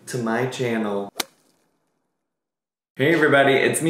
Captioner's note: slapping sound effect